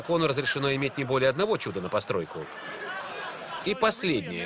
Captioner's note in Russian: Смех в зале